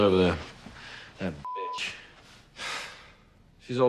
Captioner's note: beeps